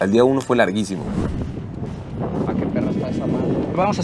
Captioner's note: voice in the distance